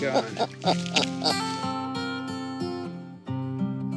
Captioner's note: laughter